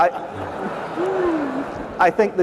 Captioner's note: laughter